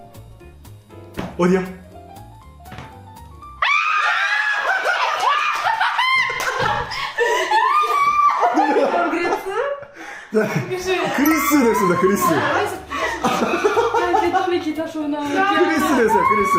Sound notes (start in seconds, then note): 3.6 everyone screams together